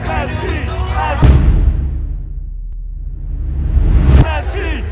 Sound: graphics thud

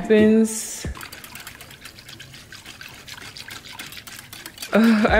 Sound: whisking noise

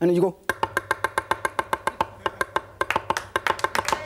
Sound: fast chopping

